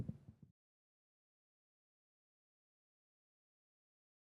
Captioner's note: silence